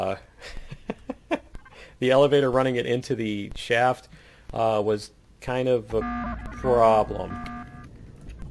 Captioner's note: laugh; klaxon